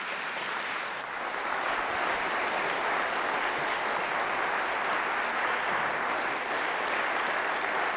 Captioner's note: audience applause